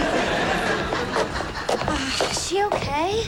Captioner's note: sighs